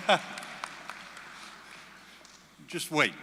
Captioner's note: applause